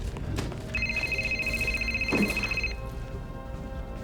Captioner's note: rings